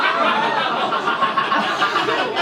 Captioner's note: audience reaction